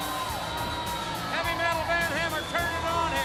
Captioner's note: crowd cheering